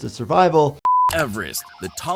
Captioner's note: screen beeps